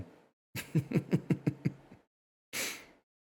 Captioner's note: chuckles